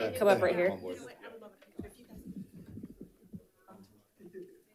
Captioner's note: people chattering